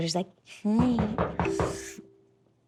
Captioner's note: door knocks